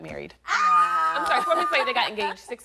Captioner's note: crowd cheers